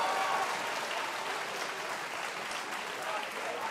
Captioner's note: cheers & applause